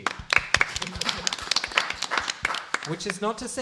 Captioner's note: applause